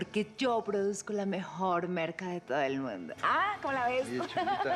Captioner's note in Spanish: risas